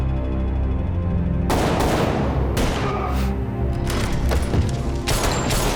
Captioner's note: gunshots blasting